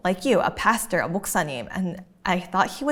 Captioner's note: talking in a foreign language